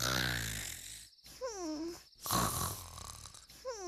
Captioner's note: snoring